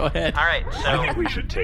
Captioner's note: laughing; laughs